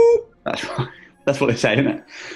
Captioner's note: laughing